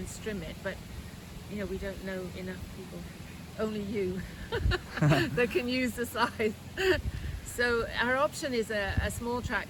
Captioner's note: laughter